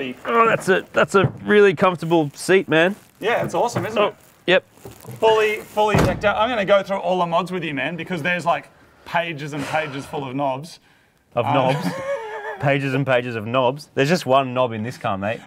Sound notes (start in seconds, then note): 10.4 sighs; 11.5 laughs